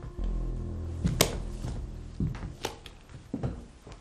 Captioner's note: footsteps thudding